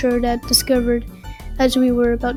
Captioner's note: breathes